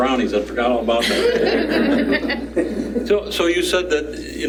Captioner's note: laughter